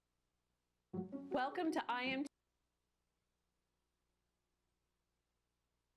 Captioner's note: audio cuts out